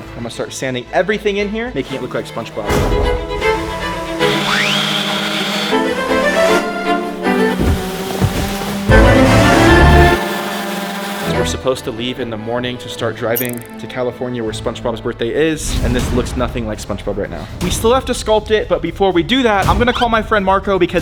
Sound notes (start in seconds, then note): 2.8 stately dramatic music; 4.2 machine whirring; 4.5 beam whirring; 5.8 stately dramatic music; 7.4 foam thudding; 7.7 machine whirring; 9.0 stately dramatic music; 9.2 machine whirring